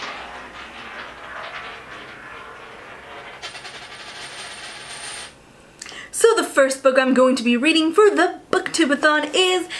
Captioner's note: drops coin